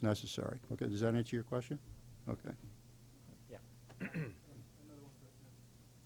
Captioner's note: clears throat